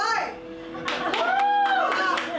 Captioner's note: cheers and claps